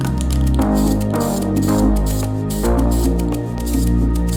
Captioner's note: spray can hissing